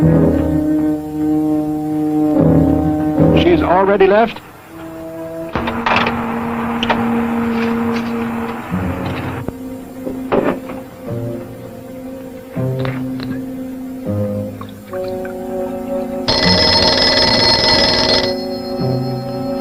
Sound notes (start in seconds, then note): 3.3 door clicks